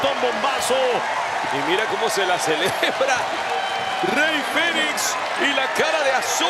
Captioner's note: laugh